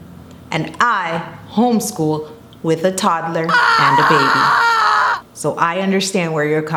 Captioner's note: loud scream